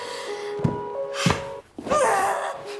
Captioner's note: dancer body thumping; dancer grunting